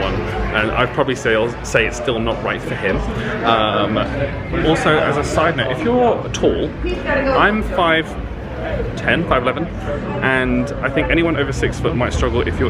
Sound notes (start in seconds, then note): none